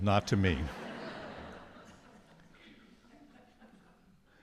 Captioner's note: audience laughs